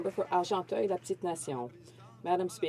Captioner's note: some Applause